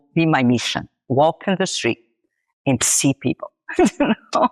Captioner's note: laughs